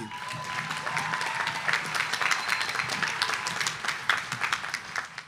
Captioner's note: audience applauding